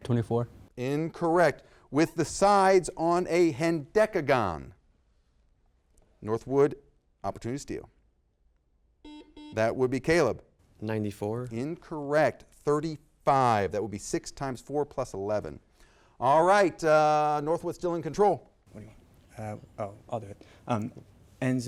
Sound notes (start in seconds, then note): 9.0 buzzer beeps